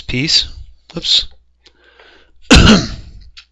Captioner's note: cough